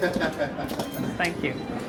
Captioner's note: cast member chuckles